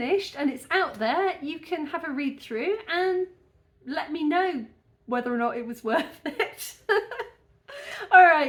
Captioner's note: laughing